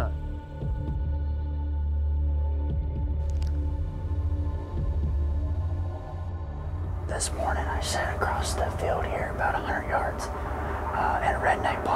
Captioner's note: whispering